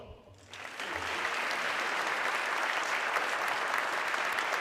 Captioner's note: audience clapping